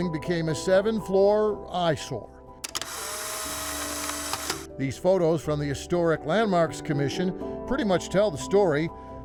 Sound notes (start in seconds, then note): 2.6 camera snapping